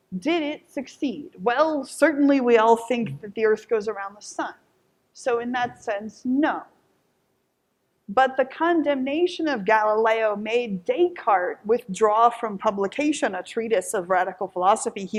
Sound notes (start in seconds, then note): none